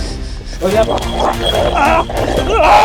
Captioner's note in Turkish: Hırlama ve boğuşma sesleri